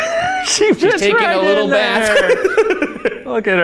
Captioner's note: laughs; laughing